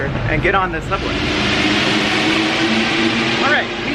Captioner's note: train zooming